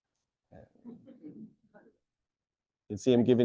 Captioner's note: audience chuckling